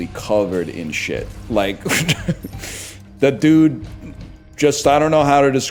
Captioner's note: laughs